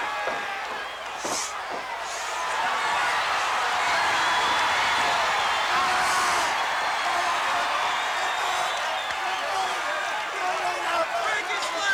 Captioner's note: crowd chatter